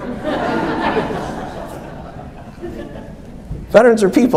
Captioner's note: audience laughs